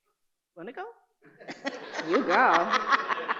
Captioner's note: audience laughing